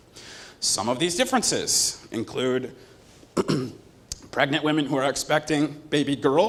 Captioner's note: cough